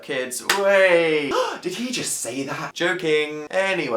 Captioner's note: shocked sound